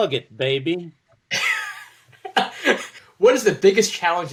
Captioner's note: laughs